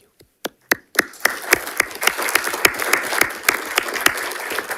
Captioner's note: audience applauding